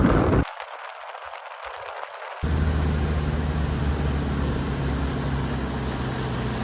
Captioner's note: noise of the driving current